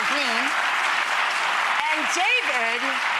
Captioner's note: clapping